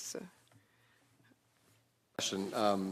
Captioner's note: speaking French